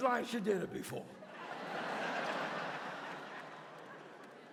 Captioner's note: audience laughs